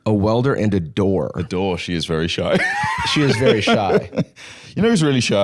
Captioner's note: laughs